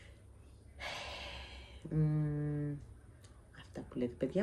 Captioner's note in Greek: αναστενάζει